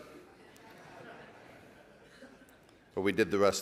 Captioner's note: laughing